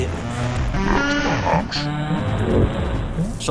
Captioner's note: scary laughter